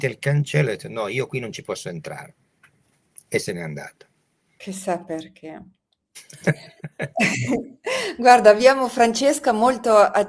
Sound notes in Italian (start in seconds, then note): 6.2 risate; 6.2 schiarire la voce